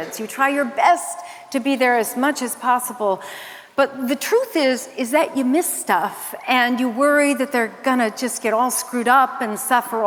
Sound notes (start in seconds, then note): none